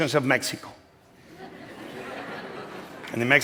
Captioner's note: laughter